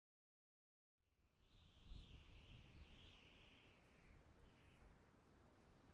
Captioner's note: wind